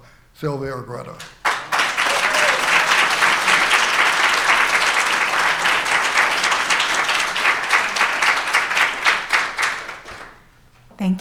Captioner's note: applause